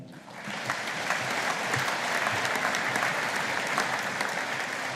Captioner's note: audience applauding